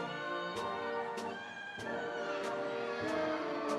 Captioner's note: audience cheering